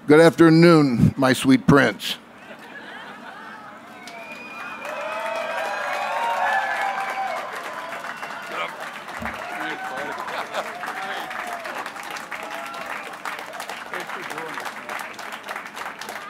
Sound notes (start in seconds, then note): 5.2 applause; 10.0 cheers and applause